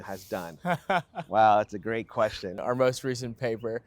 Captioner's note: laughs